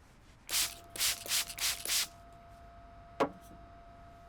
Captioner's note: bottle sprays